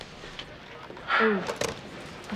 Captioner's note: Evan sighing